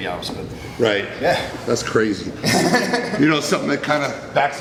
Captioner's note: chuckles; laughs